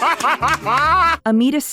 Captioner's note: Archie Renaux CACKLES with laughter at this